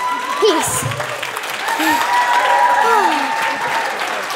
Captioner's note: applause, cheers